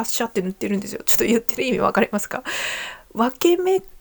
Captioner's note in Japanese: 息をのむ音